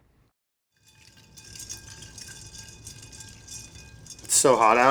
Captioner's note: ice clinking